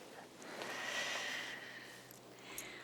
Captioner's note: sighs